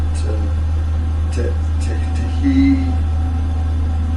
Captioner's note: stuttering